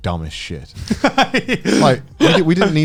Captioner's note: Garnt laughing